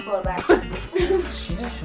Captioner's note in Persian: صدای خنده‌ی کارگردان